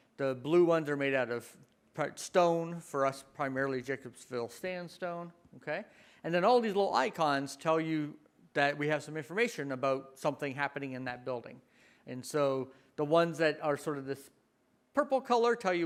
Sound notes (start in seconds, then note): none